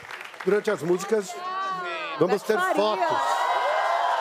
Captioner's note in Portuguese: aplausos